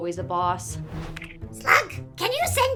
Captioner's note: whoosh